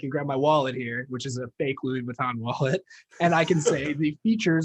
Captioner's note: laughing